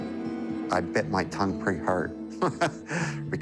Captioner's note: light guitar music; chuckles